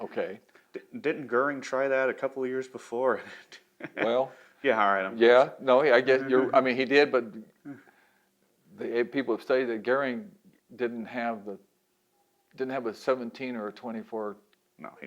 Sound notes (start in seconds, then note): 3.1 laughs